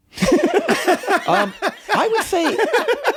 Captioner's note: guys laughing